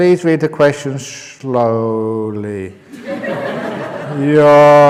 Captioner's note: laughter